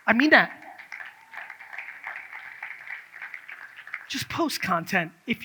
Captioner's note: audience claps